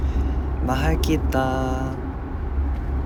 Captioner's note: speaking Tagalog